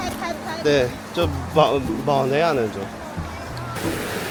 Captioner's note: in Wu dialect